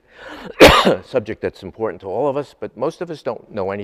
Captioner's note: coughs